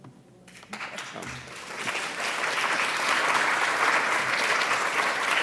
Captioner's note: audience applauding